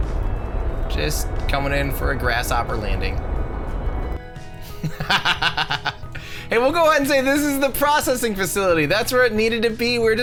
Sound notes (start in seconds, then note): 4.6 laughs